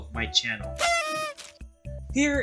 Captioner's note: confetti Sound Effect